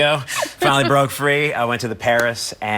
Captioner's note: laughs